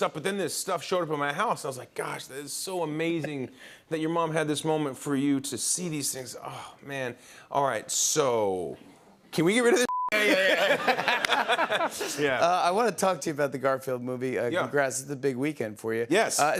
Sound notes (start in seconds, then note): 10.1 laughter